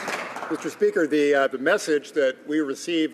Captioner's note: some Applause